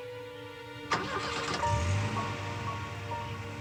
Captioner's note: suspenseful music; engine starts